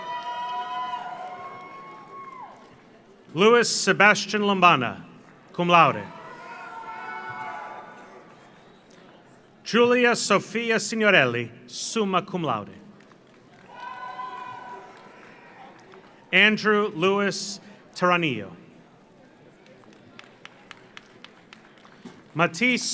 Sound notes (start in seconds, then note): 0.0 audience cheers; 0.0 audience applauds; 5.9 audience cheers; 6.4 audience applauds; 12.9 audience applauds; 13.6 audience cheers; 19.6 audience applauds